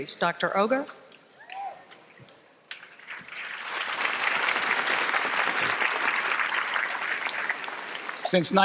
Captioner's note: applause